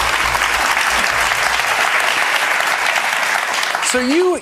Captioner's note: applause